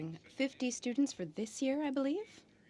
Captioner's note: speaking in french